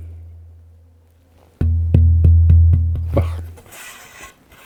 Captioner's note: hollow thuds